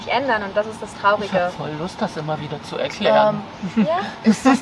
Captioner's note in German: Sarkasmus